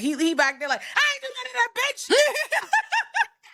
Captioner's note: laughing